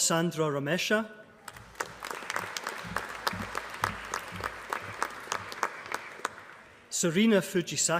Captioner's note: applause